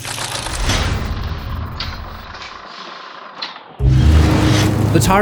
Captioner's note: impact